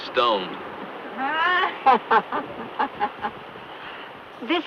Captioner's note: villager laughs